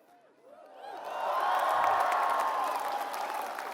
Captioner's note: applause